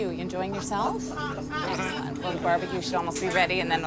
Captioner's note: voiceover